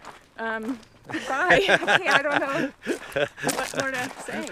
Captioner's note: laughs